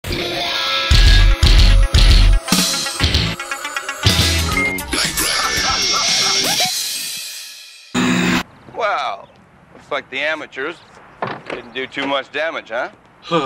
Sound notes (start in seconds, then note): 0.8 aggressive music; 7.9 loud static